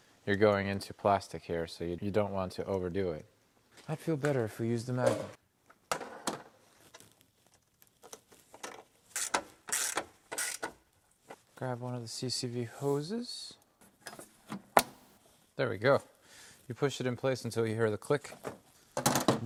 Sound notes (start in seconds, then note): none